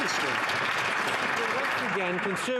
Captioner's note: some Applause